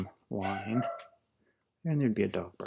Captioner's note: barking